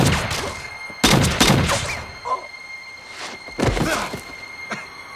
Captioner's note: gun fires; suspenseful music